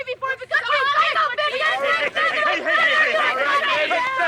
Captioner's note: women shouting; women shouting